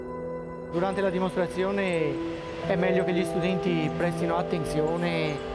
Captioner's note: speaking foreign language